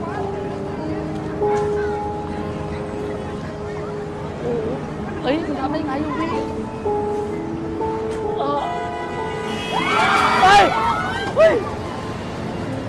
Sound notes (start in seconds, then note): 0.3 people talking in foreign language; 8.3 car horns honking; 9.5 people screaming